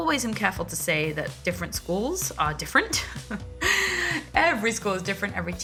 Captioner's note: chuckles